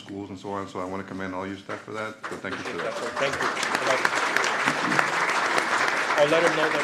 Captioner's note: applause